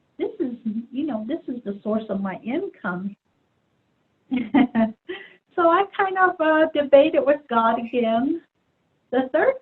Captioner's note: laughs